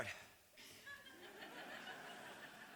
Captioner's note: laughter